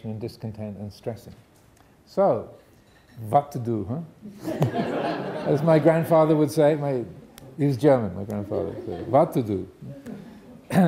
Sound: audience laughing

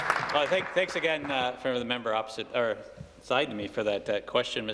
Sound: some Applause

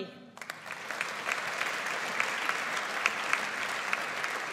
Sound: audience applauds

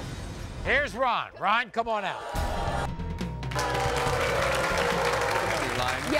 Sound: audience booing

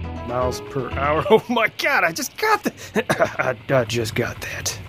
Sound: coughs

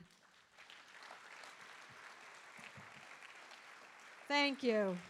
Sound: audience applauding

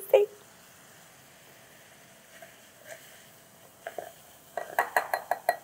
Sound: vinegar sizzling; measuring spoon tapping

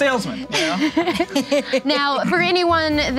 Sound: laughing

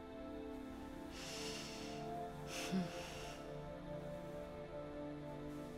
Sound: woman sniffs and sighs

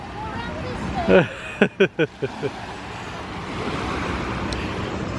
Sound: chuckles

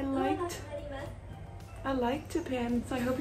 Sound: elevator announcement

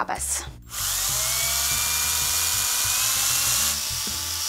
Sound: drill whirs

